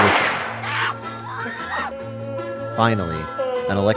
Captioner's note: screaming in background